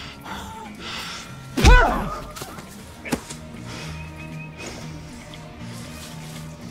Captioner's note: groans; fist pounds